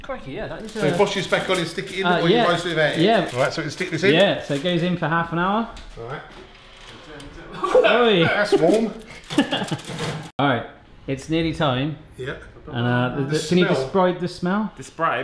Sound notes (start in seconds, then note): 9.0 all laugh